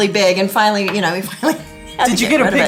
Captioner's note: chuckles